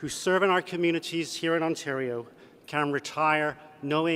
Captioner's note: none